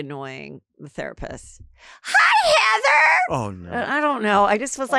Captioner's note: in high pitched voice